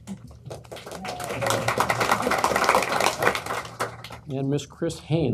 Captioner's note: applause